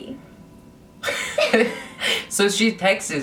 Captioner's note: laughs